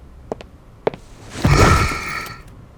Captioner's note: Smoke sighs, tired